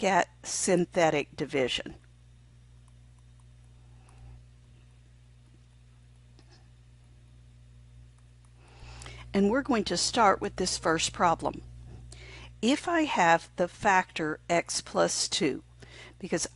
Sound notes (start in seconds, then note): 3.5 silent